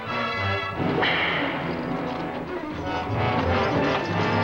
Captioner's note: dramatic orchestral music; whip cracks